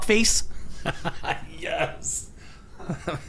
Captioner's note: laughing